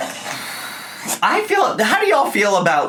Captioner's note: sighs